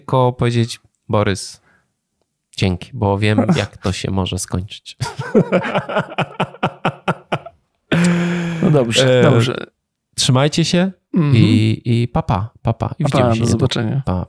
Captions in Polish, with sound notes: tylko powiedzieć "Borys, dzięki, bo wiem jak to się może skończyć". (śmiech) No dobrze. Trzymajcie się i pa pa. Pa pa. I widzimy się. Pa pa. Do zobaczenia.